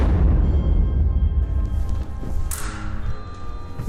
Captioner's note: loud booming